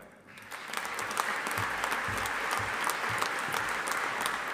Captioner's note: audience applauding